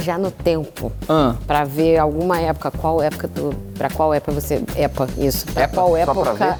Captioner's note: stammers